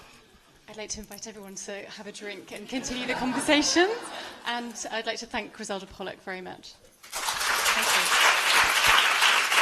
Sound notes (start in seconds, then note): 7.0 applause